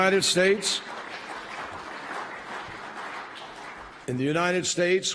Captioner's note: applause